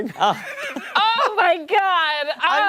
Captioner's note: laughter